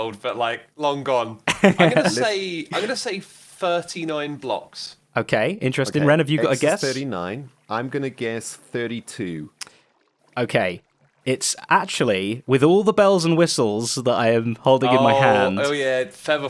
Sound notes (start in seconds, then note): 1.4 laughs